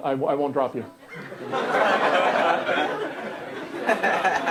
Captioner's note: laughter